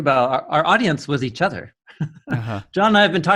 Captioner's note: laughing